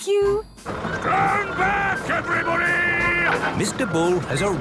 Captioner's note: shouting